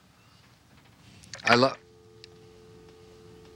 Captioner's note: dial tone